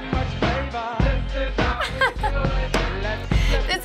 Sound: chuckles

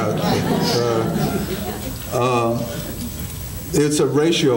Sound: audience laughing

